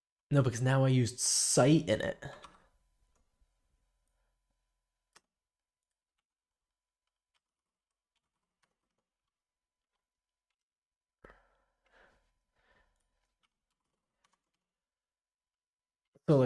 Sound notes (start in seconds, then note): 2.2 silence